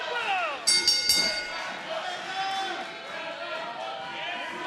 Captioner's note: bell rings